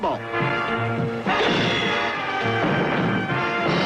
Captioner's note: dramatic music; punch echoing; door crashing; dramatic music